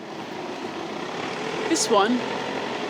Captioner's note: car engines roaring